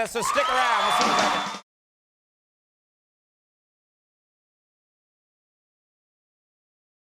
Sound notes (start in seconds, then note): 0.0 shouts